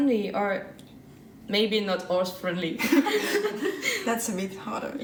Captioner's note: laughter